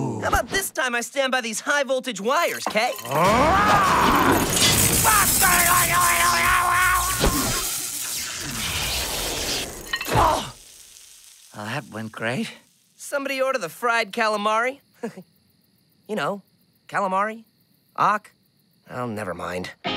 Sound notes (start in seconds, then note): 4.4 sizzling; 5.9 yelling; 15.0 chuckle